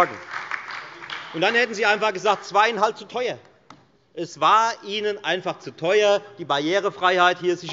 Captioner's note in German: Beifall bei der FDP, der SPD und der LINKEN